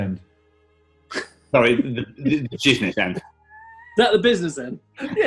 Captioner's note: laughs